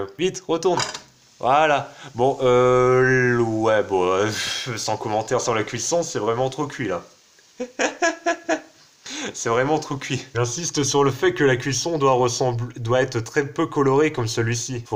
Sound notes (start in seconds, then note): 7.5 laughs